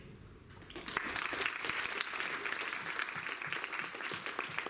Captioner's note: applause